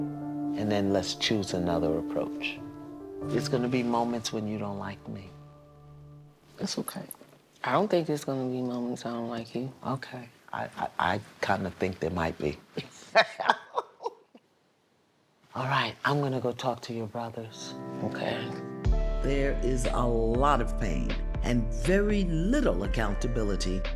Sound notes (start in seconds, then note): 12.8 laughs